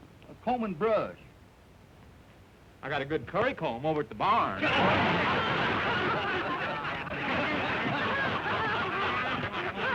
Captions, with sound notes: A comb and brush. I got a good curry comb over at the barn. [laughter]